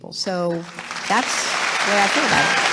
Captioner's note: applause